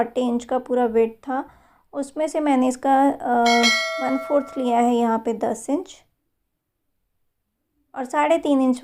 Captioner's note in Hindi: घंटी की आवाज़